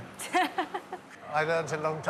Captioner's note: April laughs